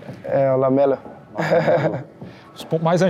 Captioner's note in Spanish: Risas